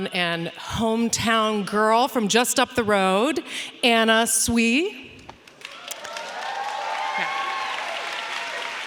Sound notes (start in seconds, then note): 5.5 audience applauding; 5.7 audience cheering